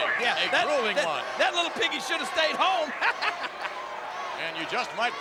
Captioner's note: laughs